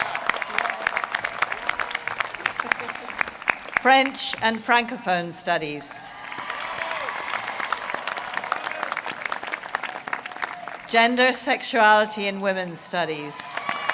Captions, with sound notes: >> Film and media studies. [APPLAUSE]. >> French and francophone studies. [APPLAUSE].